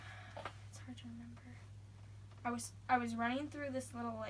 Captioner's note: sighs